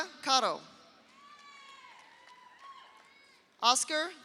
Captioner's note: audience cheers; audience applauds